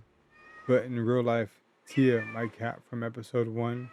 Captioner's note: Tia Meowing